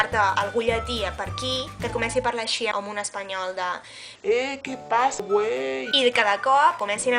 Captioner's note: with latin accent